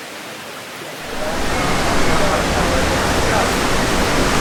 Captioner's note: waterfall sounds